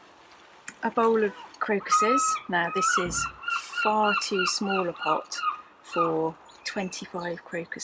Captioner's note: seagull squawk